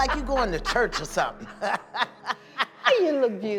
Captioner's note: laughter